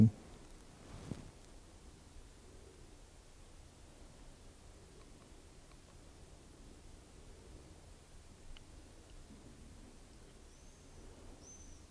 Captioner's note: silence in the background